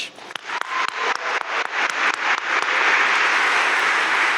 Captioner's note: audience applauding